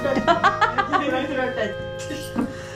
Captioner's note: excited hahahaha